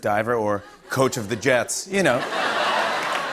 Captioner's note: laughter